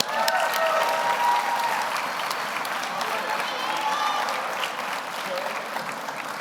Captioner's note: audience applauds; audience cheers